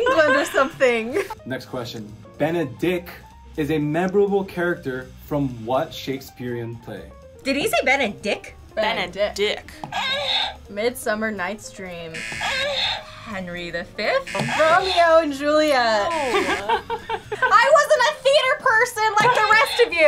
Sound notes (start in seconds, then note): 9.5 buzzer moans; 12.1 buzzer moans; 14.2 buzzer moans